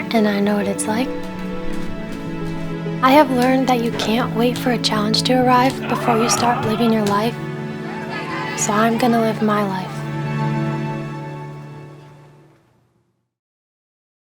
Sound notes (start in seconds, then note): 5.8 laughs; 8.2 crowd chattering